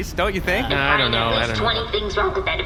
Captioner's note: audibly uncomfortable